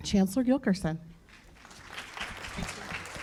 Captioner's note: applause